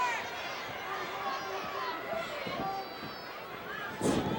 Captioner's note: audience chattering